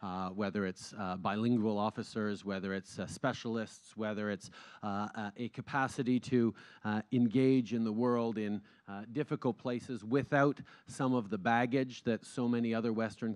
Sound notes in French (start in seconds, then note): none